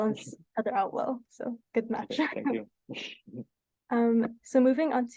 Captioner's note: laughs